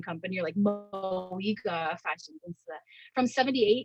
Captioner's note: audio distortion